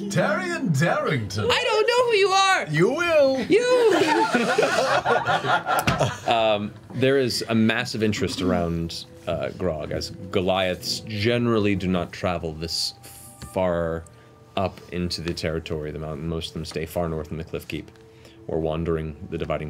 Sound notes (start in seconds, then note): 3.7 all laugh